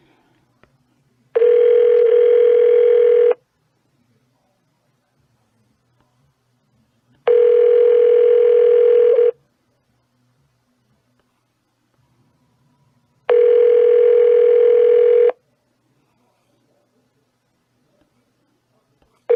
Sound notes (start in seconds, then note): 1.3 phone still ringing; 7.2 phone still ringing; 13.2 phone still ringing